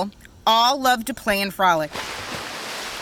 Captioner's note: water splashing